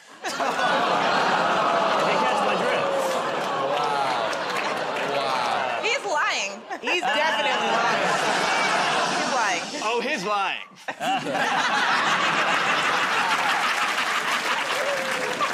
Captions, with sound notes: [ Laughter, groaning ] If you catch my drift. -Wow. Wow. -He's lying. -He's definitely lying. [ Laughter ] -Shh! -He's lying. -Oh, he's lying. [ Laughter ]